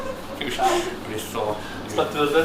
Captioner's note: laughs